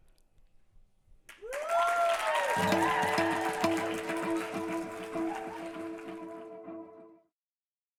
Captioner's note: applause and cheering